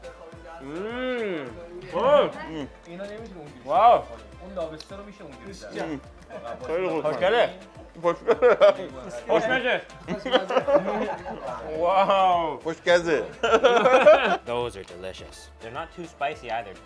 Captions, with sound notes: - Oh wow. (crowd speaks in foreign language) Wow. (laughs) Those are delicious, they're not too spicy either.